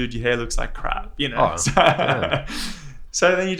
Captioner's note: laughs